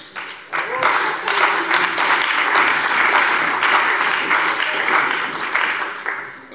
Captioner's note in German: Beifall bei der CDU und dem BÜNDNIS 90/DIE GRÜNEN